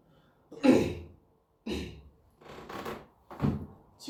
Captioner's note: clears throat